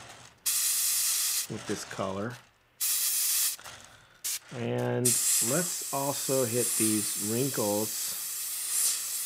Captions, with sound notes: with this color. (hissing) (hissing) And let's also hit these wrinkles a little bit